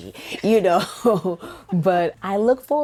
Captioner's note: laughing